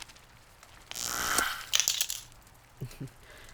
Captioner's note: magic zaps